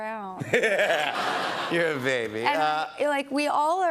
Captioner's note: laughter